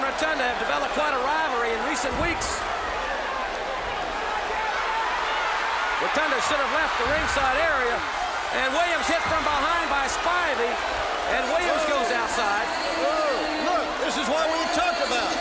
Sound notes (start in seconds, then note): 3.4 crowd chatter